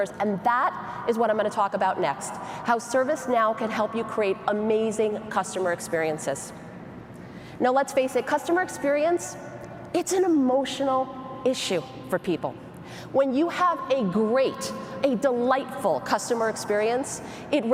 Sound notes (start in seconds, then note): none